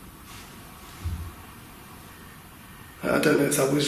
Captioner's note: steps banging